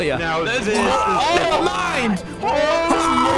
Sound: everyone is surprised and screaming

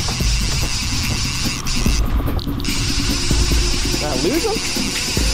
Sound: reel clicking

